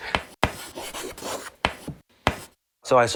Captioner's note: chalk scraps